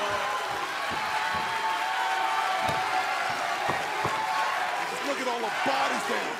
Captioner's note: crowd cheering